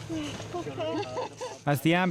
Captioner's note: laughs